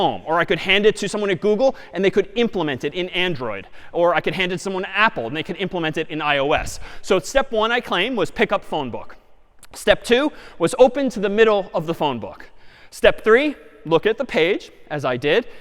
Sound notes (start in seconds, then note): none